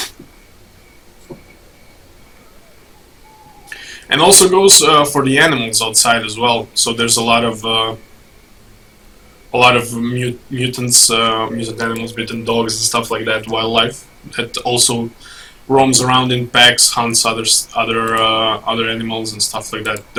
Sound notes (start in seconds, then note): none